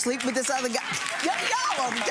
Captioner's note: applause